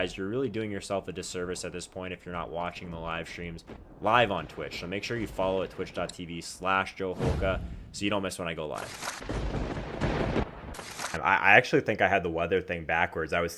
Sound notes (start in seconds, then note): 9.2 thunder rumbling